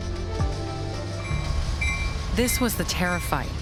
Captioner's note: train bell ringing